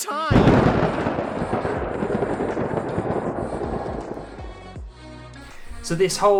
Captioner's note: thunder sound effect